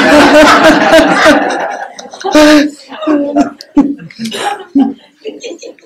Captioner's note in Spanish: Risas generales